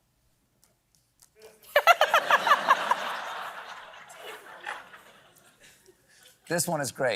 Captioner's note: laughs